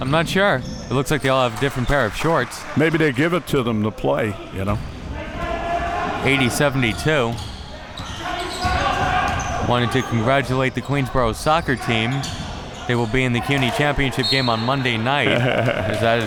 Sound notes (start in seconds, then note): 8.5 audience chattering and yelling